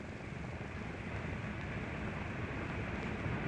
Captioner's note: plane rumbling